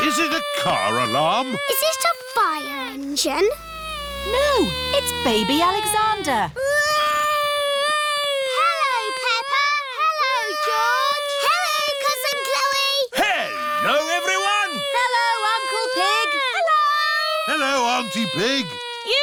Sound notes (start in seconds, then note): 6.9 continues wailing